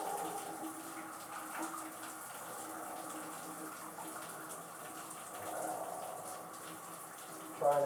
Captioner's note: deep breaths